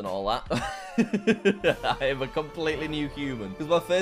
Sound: laughing

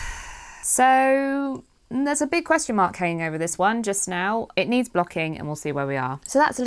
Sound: sighs

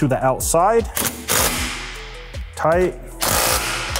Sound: torque wrench buzzing

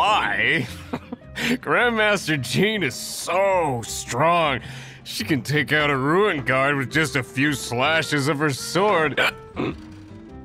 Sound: hic

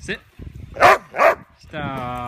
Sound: barks in protest

